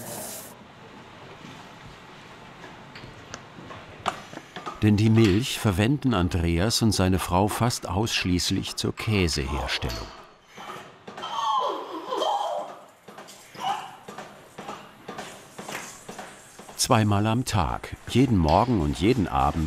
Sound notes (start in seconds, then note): 11.0 sucking noise, constant pumping noise